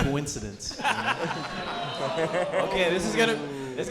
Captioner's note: audience groaning